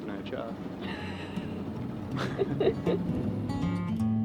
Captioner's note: they laugh; cheerful music